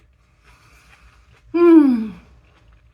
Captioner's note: sigh